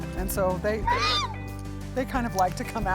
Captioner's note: horse squeals